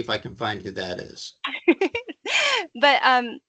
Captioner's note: laughing